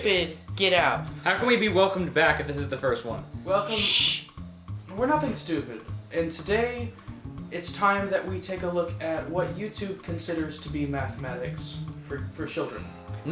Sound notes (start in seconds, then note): 3.6 shush